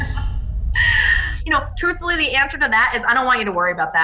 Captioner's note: laughs